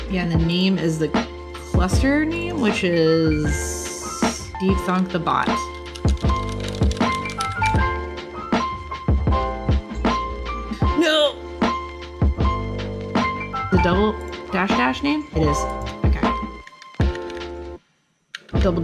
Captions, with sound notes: Yeah, the name is the cluster name, which is DeepThonkTheBot. (typing) (upbeat music) No! The double dash, dash name? It is, okay.